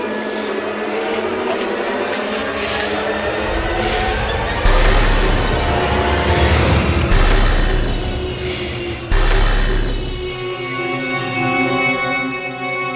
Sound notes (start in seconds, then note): 7.1 static crackling